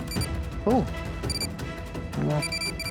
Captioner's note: beeping; beeping